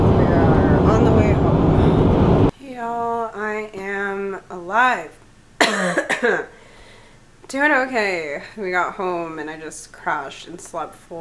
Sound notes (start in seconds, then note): 5.6 coughs